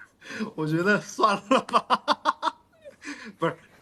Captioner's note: laughs